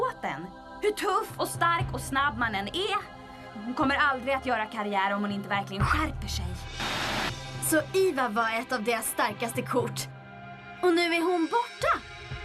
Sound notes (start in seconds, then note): none